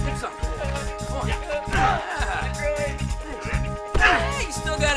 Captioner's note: thug grunting